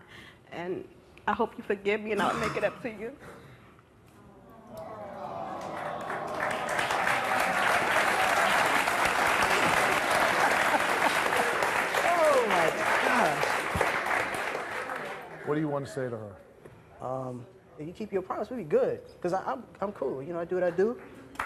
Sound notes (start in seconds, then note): 6.2 audience applauding